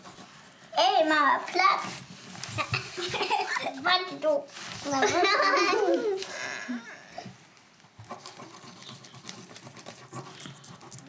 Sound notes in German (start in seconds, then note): 4.9 Sie lachen